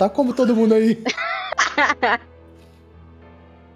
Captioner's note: laughs